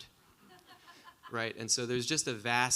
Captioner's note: audience laughing